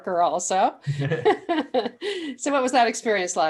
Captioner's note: laughing